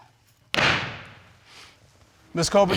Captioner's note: judge dana bangs gavel